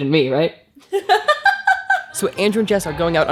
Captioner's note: laughs